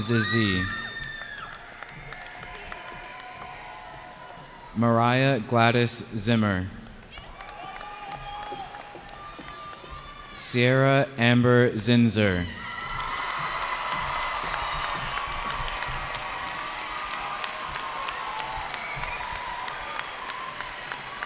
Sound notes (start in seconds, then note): 2.5 cheering; 7.0 cheering; 12.2 cheers and applause